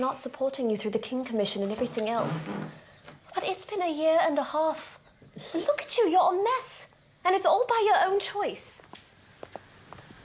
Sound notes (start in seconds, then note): none